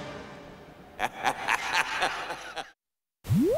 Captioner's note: joker laughs maniacally